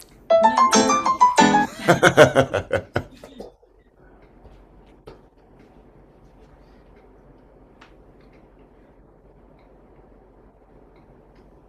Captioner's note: laughing